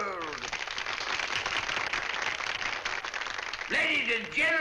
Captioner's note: applause